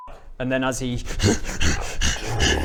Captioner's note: snarls